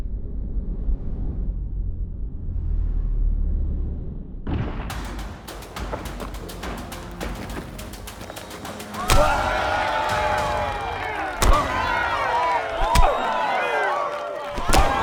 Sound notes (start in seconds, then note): 9.2 crowd cheering